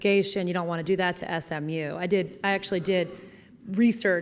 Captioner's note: none